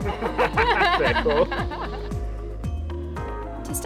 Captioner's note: they laugh